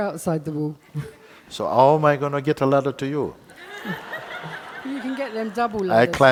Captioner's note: laughter